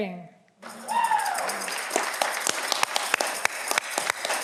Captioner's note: audience clapping